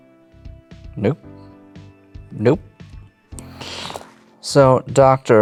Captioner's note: pen rattles